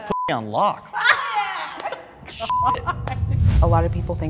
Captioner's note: all laughing